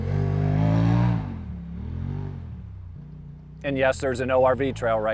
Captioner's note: ATV rumbling